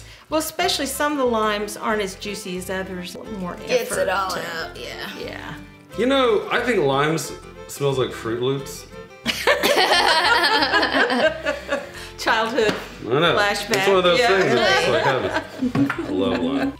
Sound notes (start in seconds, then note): 9.3 laughing